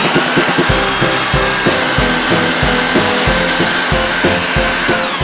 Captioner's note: noisy mincer again